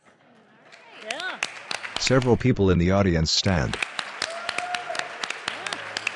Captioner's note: applause